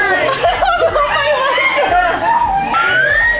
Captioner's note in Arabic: ضحك